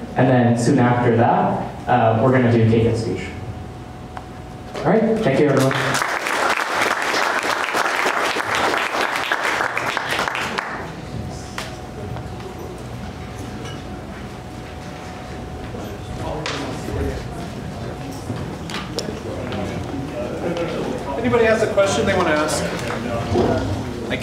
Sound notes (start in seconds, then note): 5.4 applause